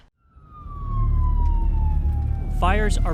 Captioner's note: ambulance sirens